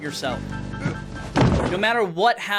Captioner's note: struggled groaning